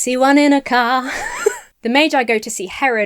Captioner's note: laughs